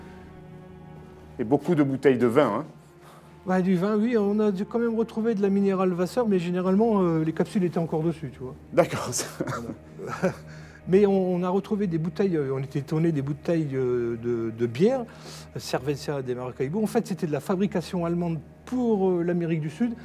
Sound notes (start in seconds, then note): 8.9 laughs